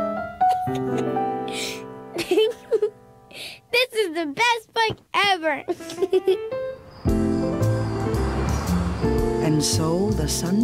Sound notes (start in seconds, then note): 0.3 laughs; 5.7 laughs